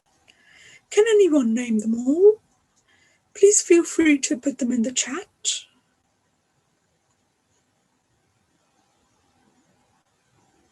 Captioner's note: pause